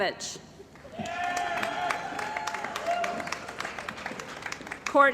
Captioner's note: cheering & Applause